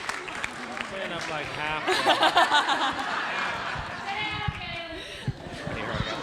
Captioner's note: audience applauds; indistinct conversation